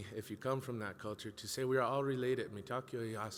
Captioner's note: speaks in a foreign language